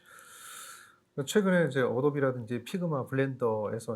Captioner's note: speaking korean